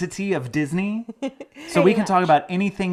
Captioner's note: laughing